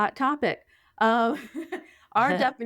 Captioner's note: laughing